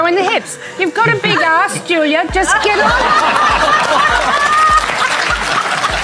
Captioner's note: audience laughing; audience laughing and clapping